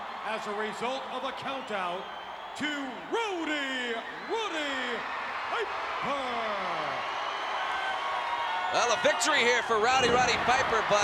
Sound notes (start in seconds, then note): 6.7 crowd cheering